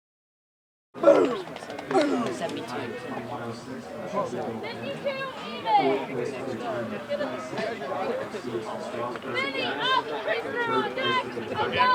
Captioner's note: track and field sounds